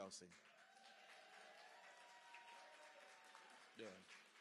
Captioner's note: cheering